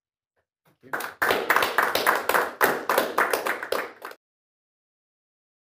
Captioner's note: applause